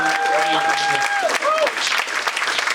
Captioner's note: audience applauding